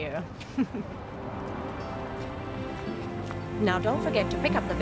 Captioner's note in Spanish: riendo